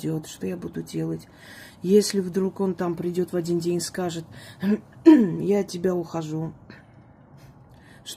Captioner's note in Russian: откашливается